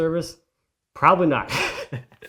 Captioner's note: laughs